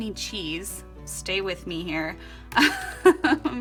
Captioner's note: laughs